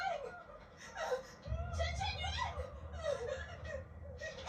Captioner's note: crying, panicing